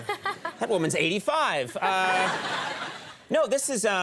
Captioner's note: all laugh